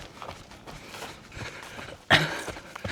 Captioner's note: grunting